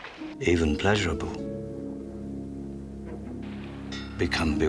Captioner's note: water Splashing; banging; suspenseful Music